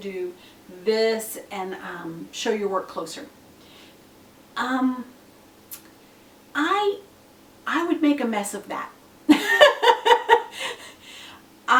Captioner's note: laughs